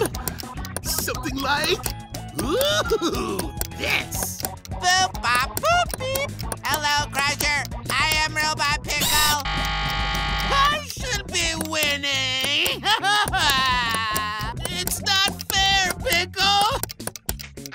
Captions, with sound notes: Something like ooh! Yes. Hello, Crusher. I am Robot Pickle. I should be winning. [crying] It's not fair, Pickle!